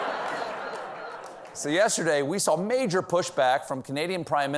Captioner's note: laughter